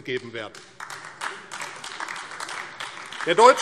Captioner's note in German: Beifall AfD